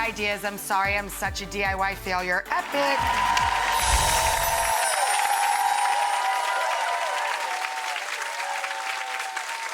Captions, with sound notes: I'm sorry I'm such a DIY failure. (audience cheers)